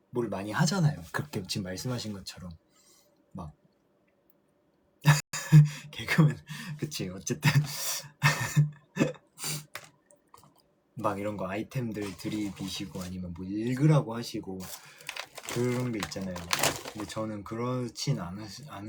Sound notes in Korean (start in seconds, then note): 5.2 웃음; 9.4 콧방귀